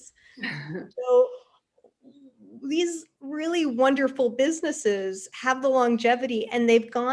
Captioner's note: laughs